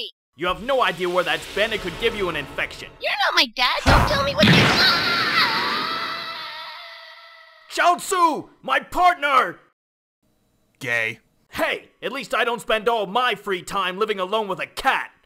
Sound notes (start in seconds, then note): 4.6 yelling